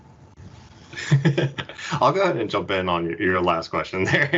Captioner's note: laughing